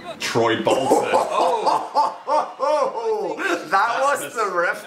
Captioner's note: Dan laughing